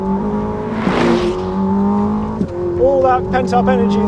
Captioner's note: engine rumbles